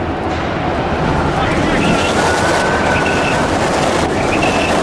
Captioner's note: wind gusting